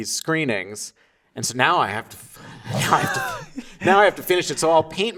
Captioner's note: laughing